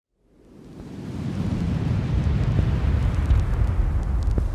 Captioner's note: screen whooshing